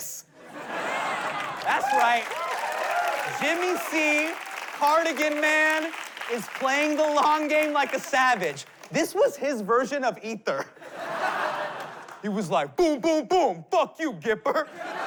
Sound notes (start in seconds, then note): 0.3 laughter; 1.8 applause, whooping; 10.6 laughter